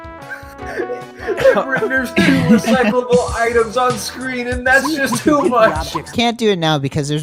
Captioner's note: laughing heavily